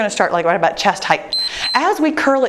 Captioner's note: timer beeps